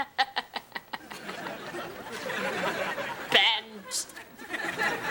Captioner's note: Ethan laughs; audience laughing